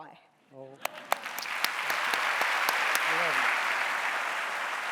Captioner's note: audience applauding